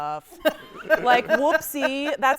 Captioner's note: laughing